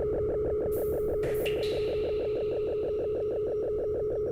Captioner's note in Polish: Elektroniczne odgłosy kapania